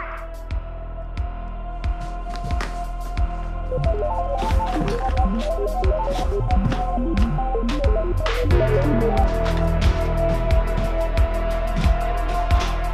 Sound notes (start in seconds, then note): 4.3 robot beeping; 9.2 tense suspenseful music